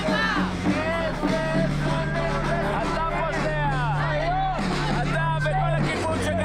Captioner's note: speaking foreign language